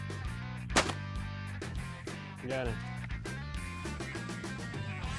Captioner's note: upbeat rock music; loud sporadic gunfire